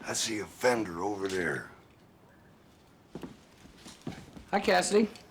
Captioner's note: whispering